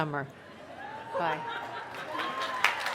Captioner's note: applause